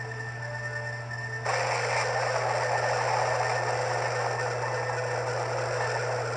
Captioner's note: thunder Rumbling